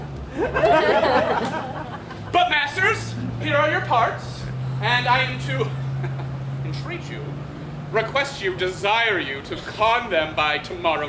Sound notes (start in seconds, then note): 2.4 audience laughs; 5.6 laughs